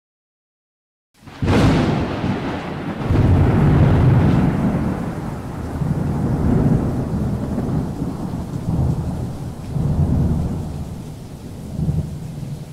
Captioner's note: thunder crashes and rumbles